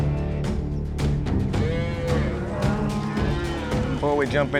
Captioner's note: cattle moo